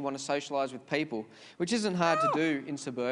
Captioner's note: bird screeches loudly